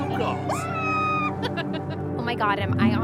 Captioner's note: woman screams and laughs